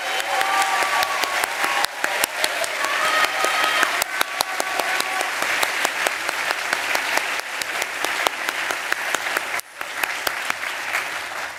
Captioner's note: applause